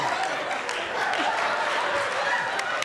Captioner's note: laughter